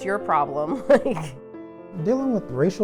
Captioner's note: laughs